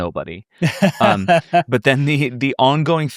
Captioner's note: laughs